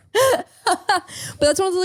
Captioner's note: laughing